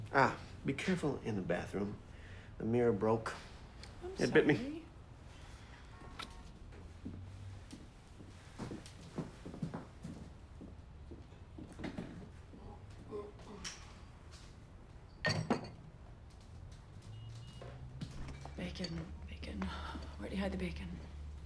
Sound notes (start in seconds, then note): 9.3 shoes clacking; 15.2 glass clinks